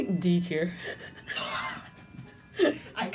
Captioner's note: laughter; mouth exhales